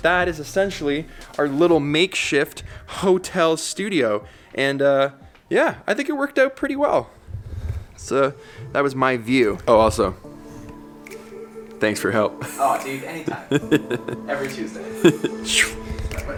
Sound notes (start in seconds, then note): 12.3 laughs